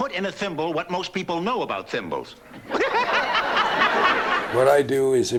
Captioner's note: cackles